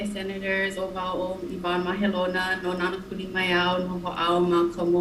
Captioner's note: speaking in foreign language